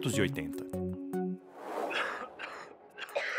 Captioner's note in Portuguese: som de vento; eletrônica suave